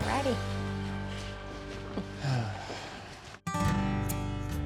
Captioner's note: footsteps